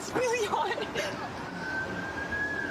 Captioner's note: siren wailing